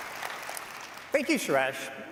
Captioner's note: applause